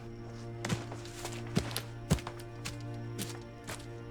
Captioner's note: angry stomping